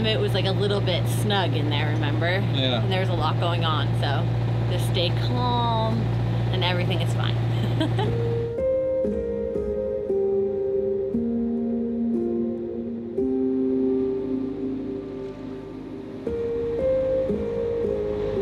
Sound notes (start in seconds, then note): 7.5 laughs; 8.6 soft piano music